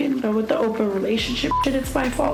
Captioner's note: beep